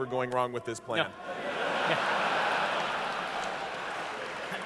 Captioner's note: laughter